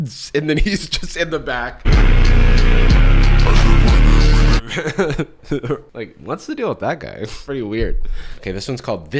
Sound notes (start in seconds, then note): 4.6 chuckles